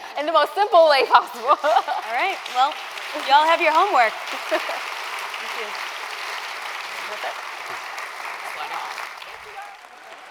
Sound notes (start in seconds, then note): 5.1 applause